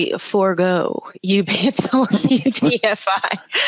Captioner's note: laughing